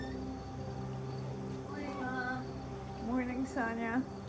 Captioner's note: door squeaking